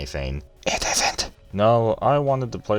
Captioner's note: whispers